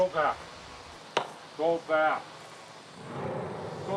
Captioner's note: bat tapping; tense music